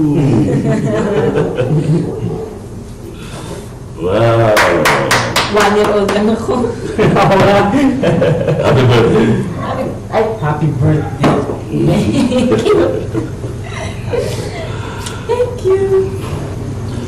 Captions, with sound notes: [all laugh] Wow. I'm only one year old. You're right. [laughs] -Happy birthday. -Happy-- Oh! I also said "happy birthday." [both laugh] Thank you!